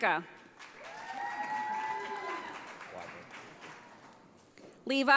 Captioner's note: audience applauds